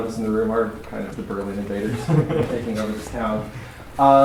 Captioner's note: laughter